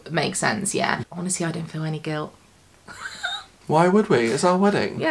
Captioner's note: laughs